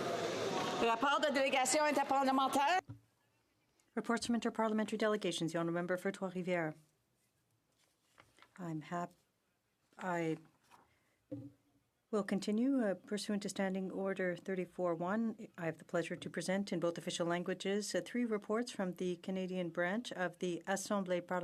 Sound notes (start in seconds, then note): 7.2 speaking French